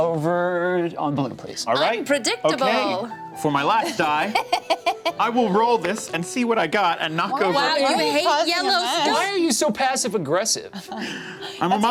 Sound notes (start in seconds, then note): 3.8 laughs